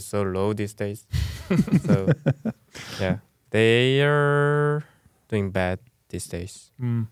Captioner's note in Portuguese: risos